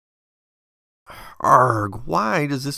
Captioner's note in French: son de dégoût